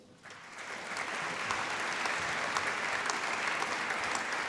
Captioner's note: applause